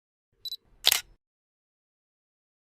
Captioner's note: camera Shutter Sound